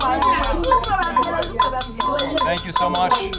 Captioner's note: instruments clanking